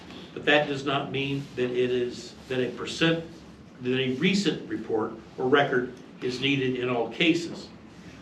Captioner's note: stammers